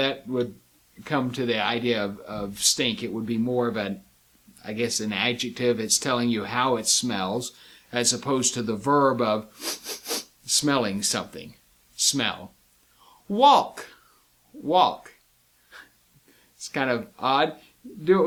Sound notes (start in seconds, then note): 9.5 sniff sniff sniff